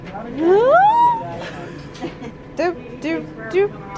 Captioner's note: squeals